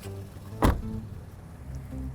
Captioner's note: door thuds